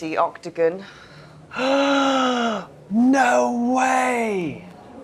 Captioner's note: huge gasp